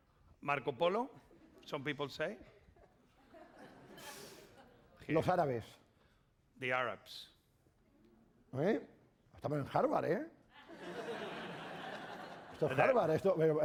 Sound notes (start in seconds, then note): 5.8 speaking spanish; 9.4 speaking spanish